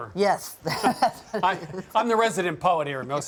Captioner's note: laughing